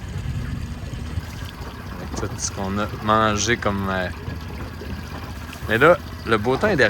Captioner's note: storm